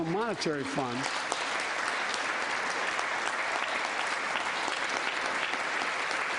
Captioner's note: applause